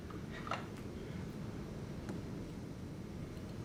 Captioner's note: none